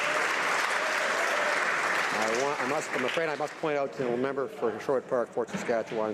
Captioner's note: some Applause